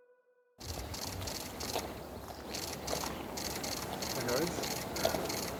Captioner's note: cameras shuttering